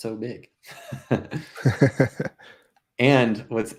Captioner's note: both laughing